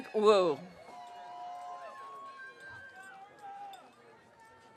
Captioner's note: audience cheering